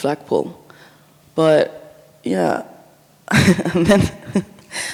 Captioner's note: chuckles